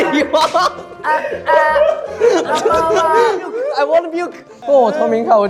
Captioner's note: already laughing, while the others keep adding jokes